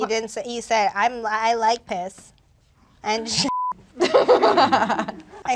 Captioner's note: beep; laughs